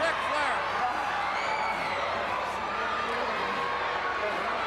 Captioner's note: crowd cheering